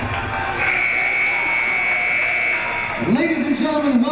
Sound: buzzer

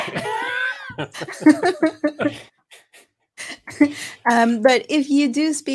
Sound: chuckling

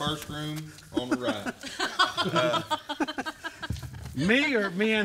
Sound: chuckle

